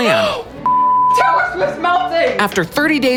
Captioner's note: beep